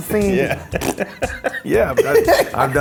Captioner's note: laughs; makes farting noise; laughs